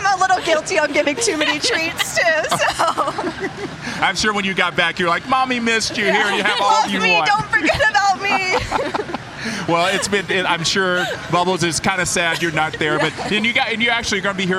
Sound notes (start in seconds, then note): 8.4 laughing